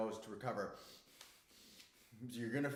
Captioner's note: breathing hard